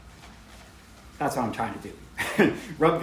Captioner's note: chuckles